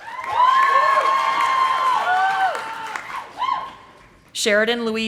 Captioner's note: audience applauding